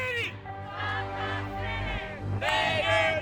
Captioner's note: crowd chants